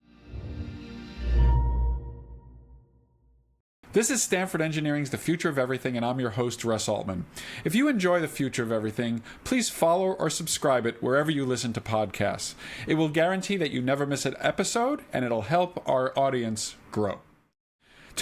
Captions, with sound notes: (bright music) (graphic swooshes) - This is Stanford Engineering's "The Future of Everything," and I'm your host Russ Altman. If you enjoy "The Future of Everything," please follow or subscribe it wherever you listen to podcasts. It will guarantee that you never miss an episode and it'll help our audience grow.